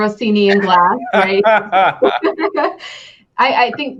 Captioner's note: both laughing